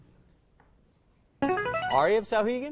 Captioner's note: player buzzer